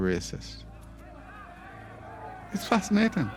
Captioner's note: excited chatter